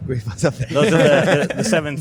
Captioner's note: laughter